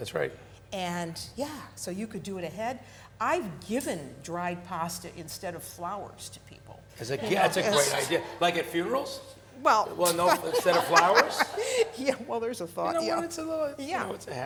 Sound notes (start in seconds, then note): 7.2 women laughing; 12.3 all laughing